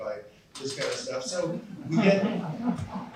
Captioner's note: laughter